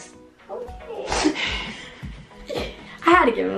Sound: laughs

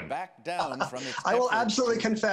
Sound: laughing

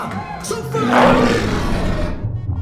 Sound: growls

